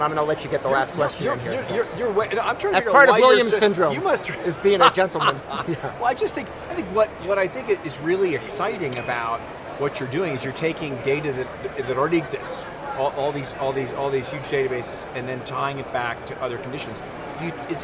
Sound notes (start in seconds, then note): 5.2 laugh